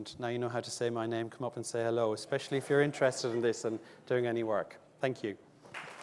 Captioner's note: audience clapping